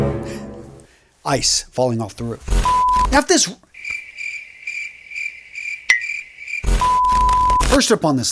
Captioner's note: sound effect; sound effect